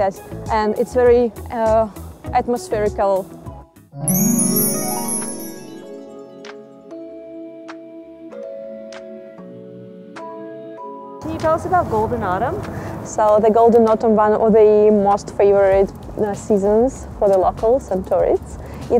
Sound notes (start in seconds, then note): 4.0 tinkling chimes; 6.6 peaceful instrumental music